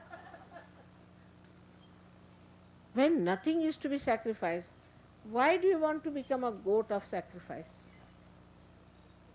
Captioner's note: laughter